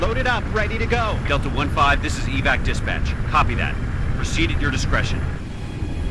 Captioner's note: radio